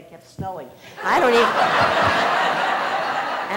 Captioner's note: laughter